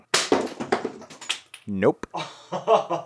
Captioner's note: ice breaking